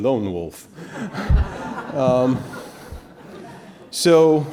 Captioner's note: audience laughing